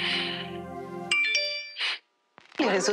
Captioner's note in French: sonnerie de notification